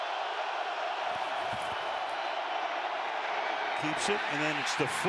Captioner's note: cheering